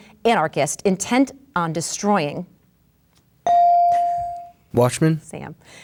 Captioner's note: bell dings